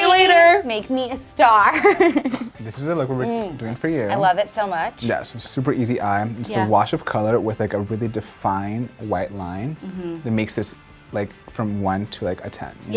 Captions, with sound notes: - Bye! Make me a star! (laughs) - This is the look we'll be doing for you. - Mmm, I love it so much. - Yeah, so it's a super easy eye. It's a wash of color with like a really defined white line that makes this like from one to like a 10, you know?